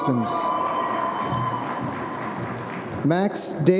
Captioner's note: audience cheering